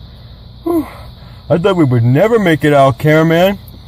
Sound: sigh

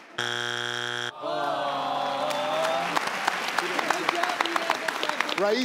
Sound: buzzer buzzing; audience groans

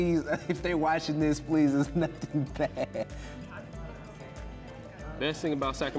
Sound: laughs

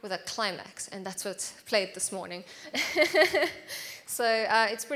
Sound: laughs

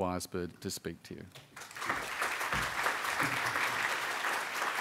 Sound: applause

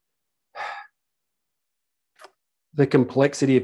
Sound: sighs

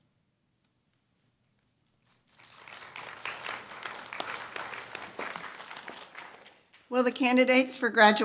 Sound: applause

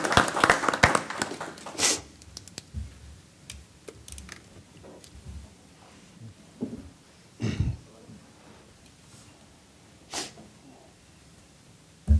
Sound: applause

